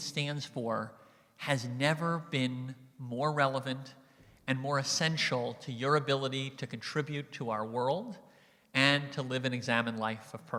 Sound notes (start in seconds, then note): none